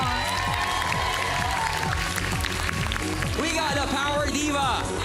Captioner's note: loud cheering, applause